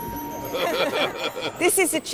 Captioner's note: laughter